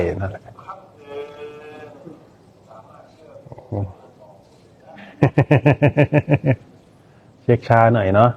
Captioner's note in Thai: เสียงหัวเราะ